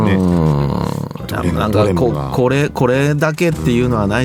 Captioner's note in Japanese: 鼻息